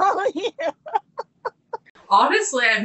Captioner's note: laughing